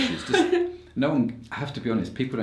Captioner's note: laughs